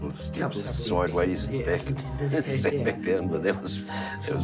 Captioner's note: both laugh